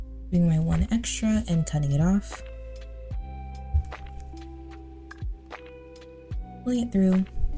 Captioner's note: scissor cuts